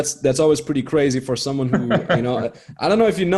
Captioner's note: chuckling